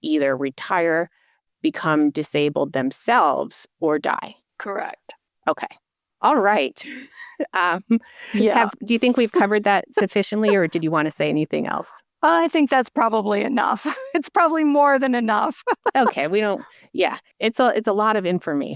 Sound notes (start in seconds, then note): 9.0 chuckle; 12.1 still laughing